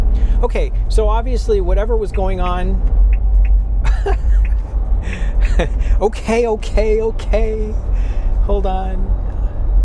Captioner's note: tick tick, tick tick